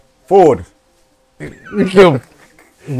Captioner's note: laughing